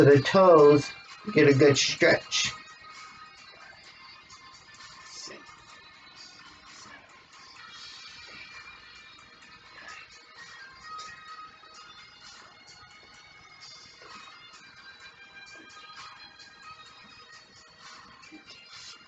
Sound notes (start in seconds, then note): 4.1 whisper counting as music continues playing